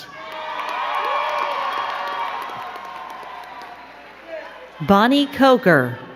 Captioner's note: crowd cheering and clapping